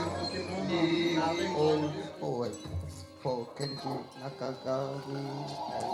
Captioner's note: reciting